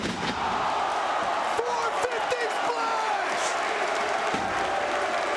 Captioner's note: crowd cheering